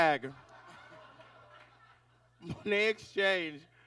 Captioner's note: audience laughs